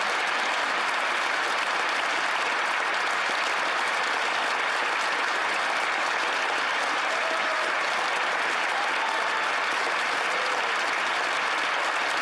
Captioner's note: some Applause